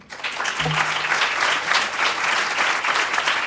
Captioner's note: applause